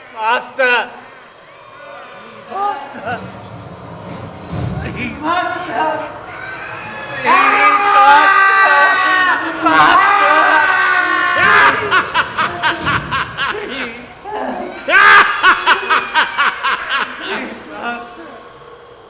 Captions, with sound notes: Master. Master. Please. Master. [Screaming.] Please, Master. Master. [Dracula laughing.] Please, Master.